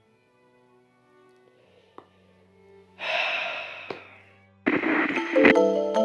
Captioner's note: sighs